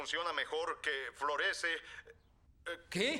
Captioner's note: voiceover